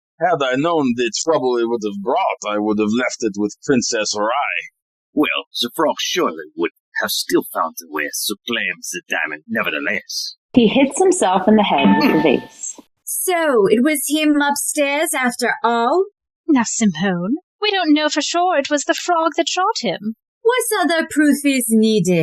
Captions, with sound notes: PLUMMER Had I known the trouble it would’ve brought, I would’ve left it with Princess Rai. ARKIN Well, The Frog surely would have still found a way to claim the diamond nevertheless. (Dinging sound as he hits himself in the head with the vase) SIMONE So, it was him upstairs after all? CLAUDIA Now, Simone, we don’t know for sure it was the Frog that shot him. SIMONE What other proof is needed?